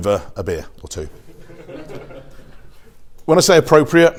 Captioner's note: audience chuckles